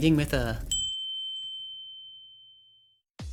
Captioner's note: windChime